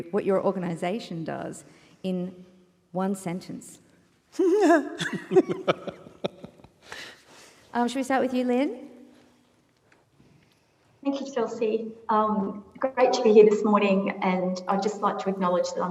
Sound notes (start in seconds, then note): 5.0 panel laughs